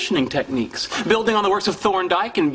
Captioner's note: audience laughter